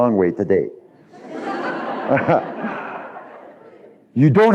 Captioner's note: laughter